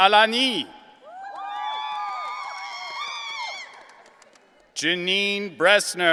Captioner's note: audience cheering